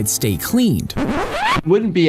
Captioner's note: vinyl record scratching